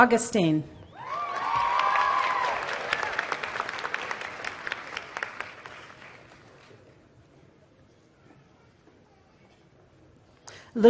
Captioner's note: applause